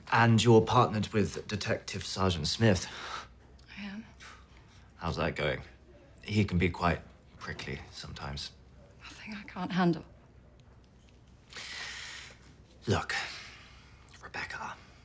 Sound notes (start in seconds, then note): none